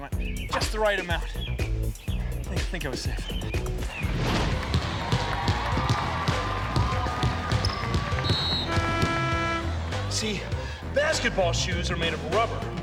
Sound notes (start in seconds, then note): 4.2 crowd cheering; 7.6 whistle blows